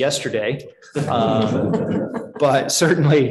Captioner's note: chuckling